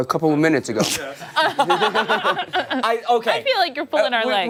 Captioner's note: laughter